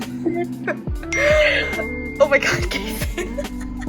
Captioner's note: phone ding